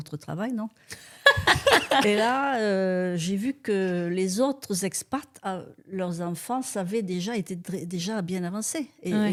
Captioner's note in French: rires